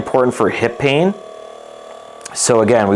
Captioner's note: massage gun buzzes